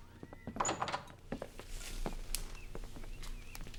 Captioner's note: door clicking